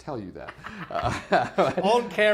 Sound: laughs

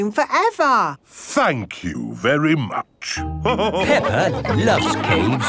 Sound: all laughing

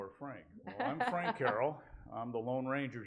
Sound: laughing

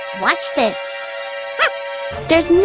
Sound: soldier makes a stunned noise & facial expression

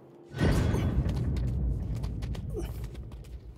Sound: sarcophagus rumbles

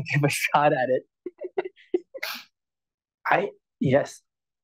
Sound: laughs

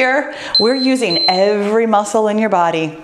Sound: timer beeps

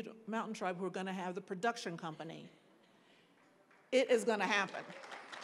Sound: applause

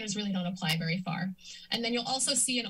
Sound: inhales

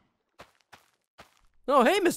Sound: footsteps

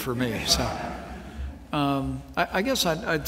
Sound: laughter

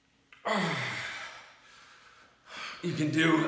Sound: grunting

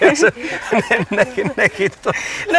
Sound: laughs

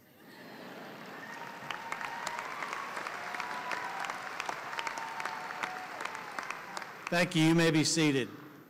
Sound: applause

